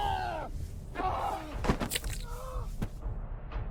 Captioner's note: flesh squelching; flesh squelch; body thud